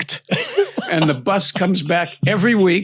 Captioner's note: laughs; chuckling